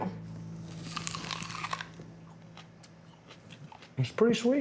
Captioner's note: biting, chewing